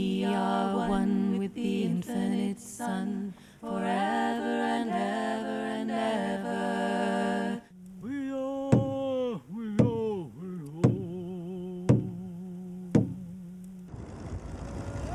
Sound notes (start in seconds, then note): 8.5 chanting in native language